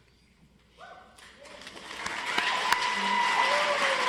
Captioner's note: audience applauds